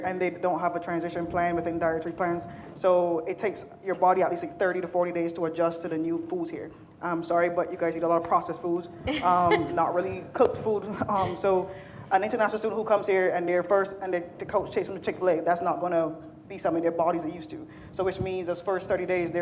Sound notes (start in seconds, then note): 9.1 laughing